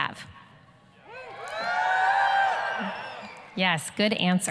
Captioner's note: students yelling, cheering